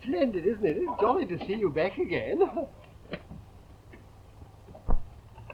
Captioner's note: laughs